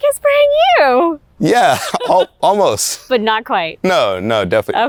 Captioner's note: laughs